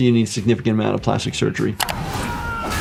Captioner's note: screen clicking; characters shouting